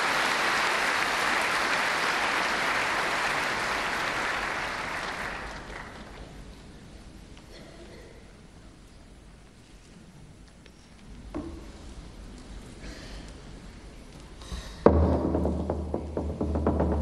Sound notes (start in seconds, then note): 3.3 applause